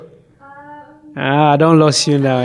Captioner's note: speaking in foreign language; woman speaking in foreign language; speaking in foreign language